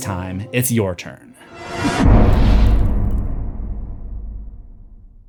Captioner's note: impact